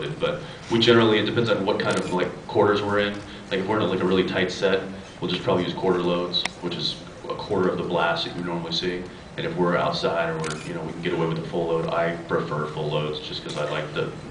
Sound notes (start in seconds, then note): none